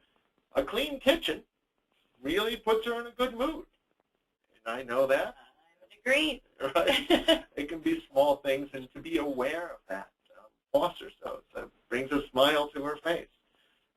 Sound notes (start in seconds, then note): 6.7 laughs